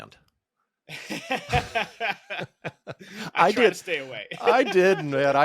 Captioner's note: laughs